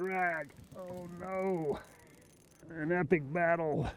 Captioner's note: reel cranking